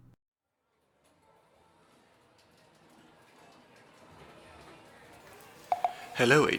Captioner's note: casino ambience; earpiece beeps